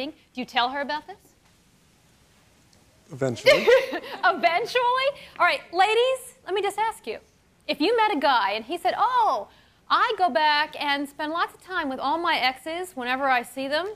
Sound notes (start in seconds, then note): 3.4 chuckles